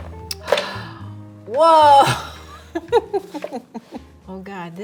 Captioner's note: laughing